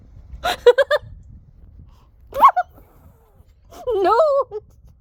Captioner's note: loud laughing, squeal